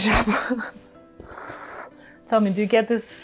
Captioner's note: laughs